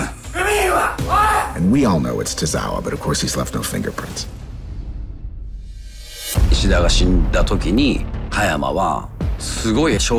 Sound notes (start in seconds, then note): 0.3 yells in japanese; 6.9 speaking in japanese